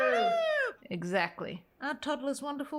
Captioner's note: crowd